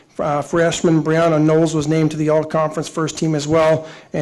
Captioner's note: none